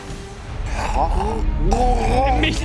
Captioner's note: fishlish eating noises